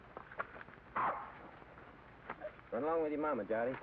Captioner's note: dog barks